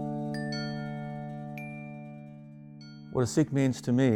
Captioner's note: bells chiming